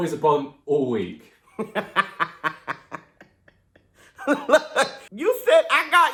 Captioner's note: laughter